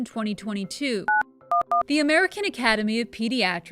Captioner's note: phone beeping